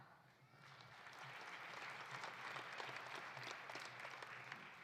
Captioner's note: audience applauding